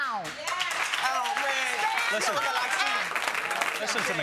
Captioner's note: audience cheering